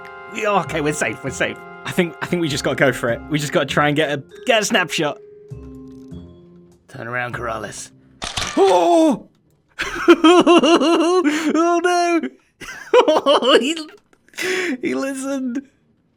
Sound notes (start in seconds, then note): 9.6 laughs; 12.6 chuckles